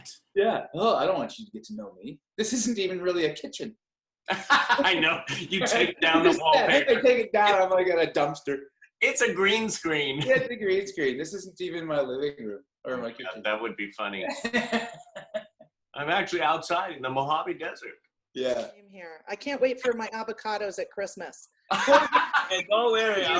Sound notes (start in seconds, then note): 4.3 laughter; 14.4 laughter; 21.7 laughter